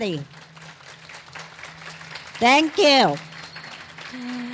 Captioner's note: clapping